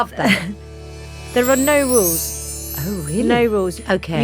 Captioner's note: chimes tinkling